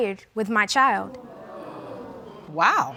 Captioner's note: audience gasping